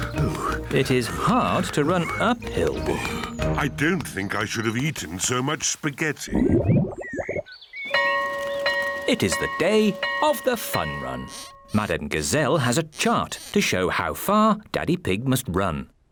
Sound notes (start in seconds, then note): 0.0 groans; 6.2 tummy rumbles; 7.9 school bell rings